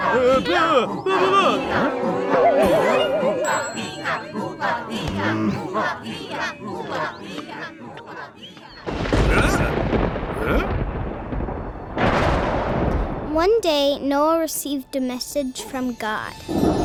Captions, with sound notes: (grunt) (thunder & surprised exclamation) One day, Noah received a message from God.